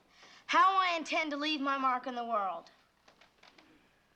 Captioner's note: shouting